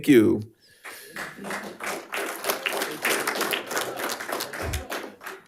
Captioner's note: audience applauding